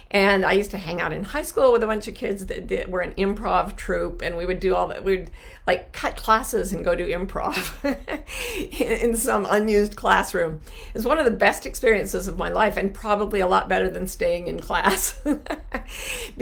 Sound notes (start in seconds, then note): 7.5 laughs; 14.8 laughs